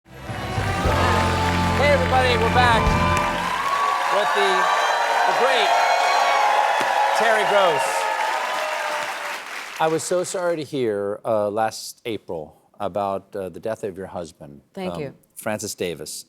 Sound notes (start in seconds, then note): 7.9 cheers and applause